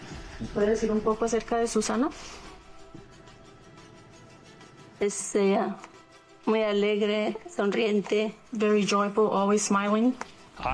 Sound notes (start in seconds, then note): 0.2 interpreter speaking in native language; 5.2 mom speaking native language